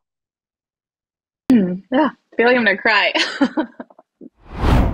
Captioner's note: laughs